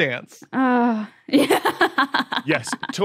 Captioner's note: laughs